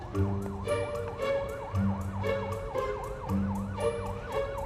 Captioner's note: police sirens